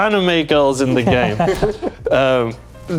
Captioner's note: laughing